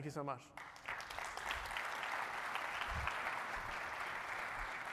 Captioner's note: applause